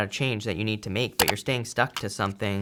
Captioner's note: button clicks